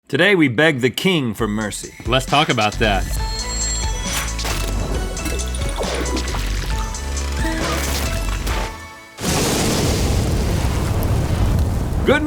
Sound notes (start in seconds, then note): 1.8 alarm rings; 3.2 playful theme music; 9.2 fire blasts